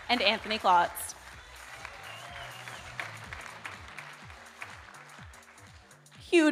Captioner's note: audience cheering; audience applauding